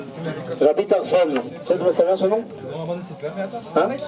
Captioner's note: speaks in hebrew